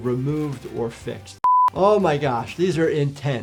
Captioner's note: screen beeping